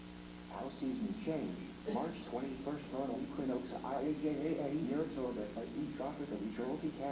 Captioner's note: muffled computer auto-reading text in choppy manner